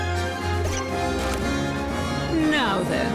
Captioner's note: squeaks